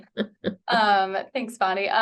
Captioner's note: laughs